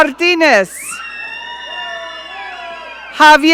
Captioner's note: audience cheering